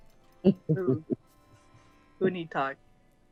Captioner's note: laughs